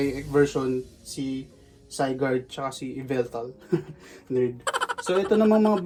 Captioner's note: laughs